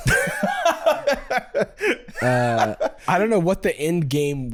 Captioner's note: laughing